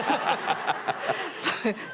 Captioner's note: laughter